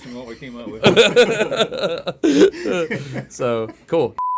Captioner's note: laughs loudly